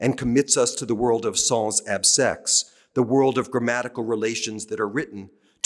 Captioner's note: french